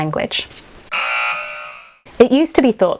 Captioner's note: buzzer blaring